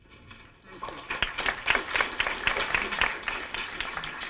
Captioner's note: clapping